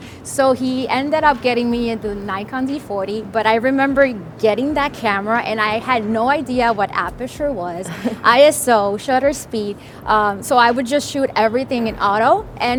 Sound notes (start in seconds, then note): 7.6 laughs